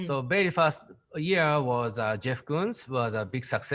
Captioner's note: none